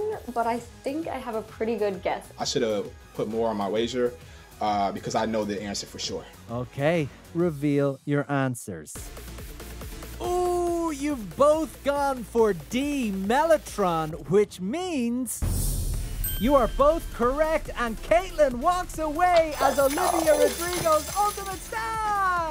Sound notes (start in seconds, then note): 8.9 upbeat music; 16.2 bell dings